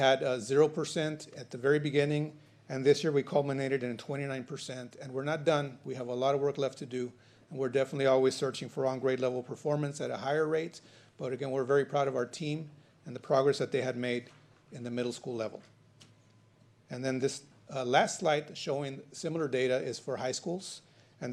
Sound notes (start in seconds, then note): none